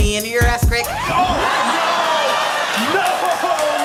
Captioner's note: record scratching